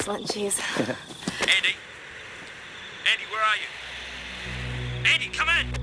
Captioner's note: two-Way Radio